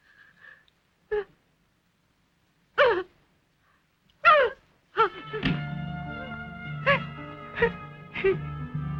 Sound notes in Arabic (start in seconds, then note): 5.5 إلسا تبكي